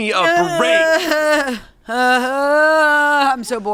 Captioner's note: groans